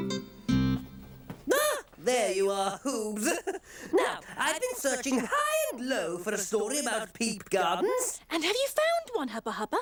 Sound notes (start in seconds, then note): 1.4 exclaims